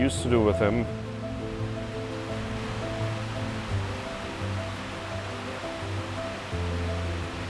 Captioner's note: rain pouring; sad music